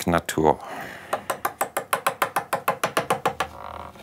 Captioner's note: knocking noise